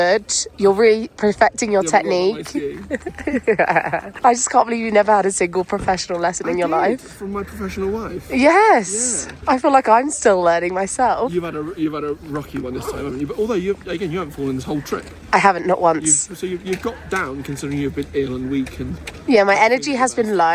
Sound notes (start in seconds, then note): 1.9 laughs